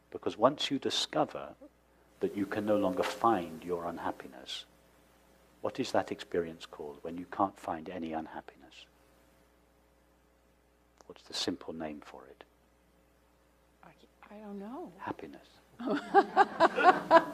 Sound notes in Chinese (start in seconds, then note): 15.8 笑聲